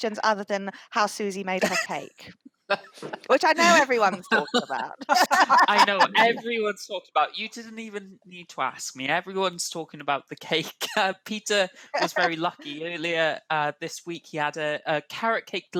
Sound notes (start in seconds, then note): 4.7 laughing